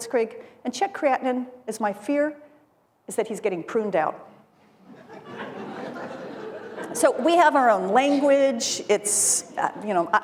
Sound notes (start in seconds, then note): 1.7 laughter